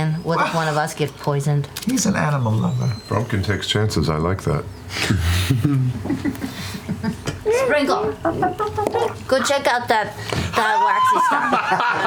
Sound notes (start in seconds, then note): 5.5 laughter